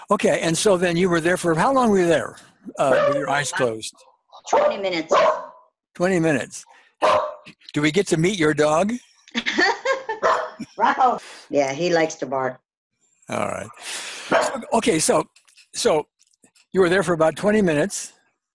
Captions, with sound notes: - Okay, and so then you were there for, how long were you there-- (dog barks) with your eyes closed? - (dog barks) 20 minutes. - 20 minutes (dog barks). Do we get to meet your dog? - (laughs) (dog barks) Rocko! Yeah, he likes to bark. - Alright. Okay. So you were there for about 20 minutes